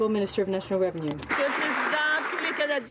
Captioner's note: some Applause